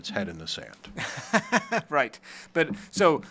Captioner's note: laughs